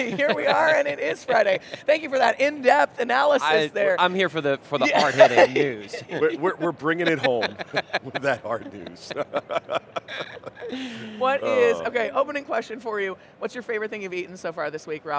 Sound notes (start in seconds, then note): 4.8 laughing; 10.2 laughs